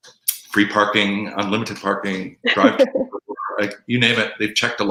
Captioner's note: laughing